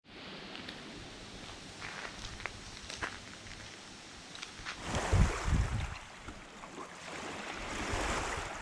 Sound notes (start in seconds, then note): 0.0 wind rustling in the trees; 4.8 water lapping